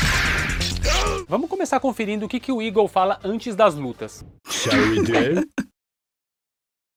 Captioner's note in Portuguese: risadas